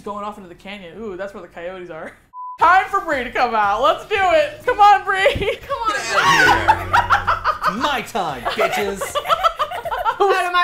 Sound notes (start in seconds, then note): 5.6 laughing; 5.9 laughs; 9.0 laugh; 9.1 laughs